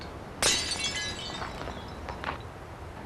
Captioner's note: glass breaks